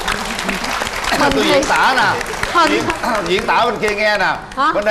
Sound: applause

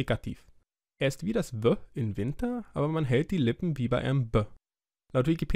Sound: German

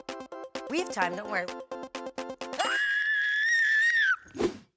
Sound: screaming; mellow music

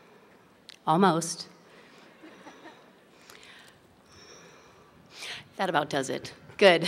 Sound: more laughter and breathing

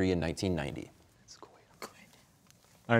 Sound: whispering

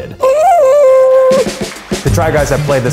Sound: imitates horn blowing

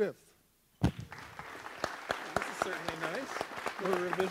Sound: audience applauds

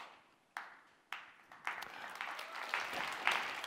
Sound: applause

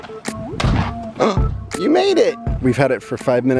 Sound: gasps

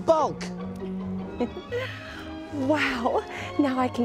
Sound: chuckles

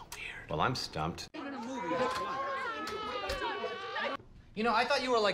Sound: group chatter

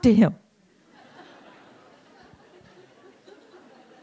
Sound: laughter

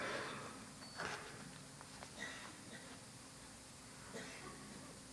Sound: machine beeps

